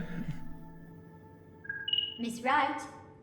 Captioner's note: continued laughter; subtle chime